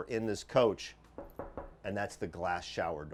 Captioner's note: knocking on shower door